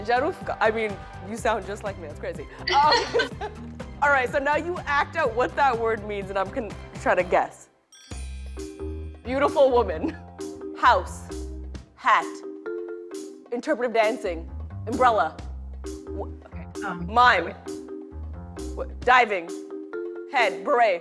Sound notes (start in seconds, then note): 2.6 laughter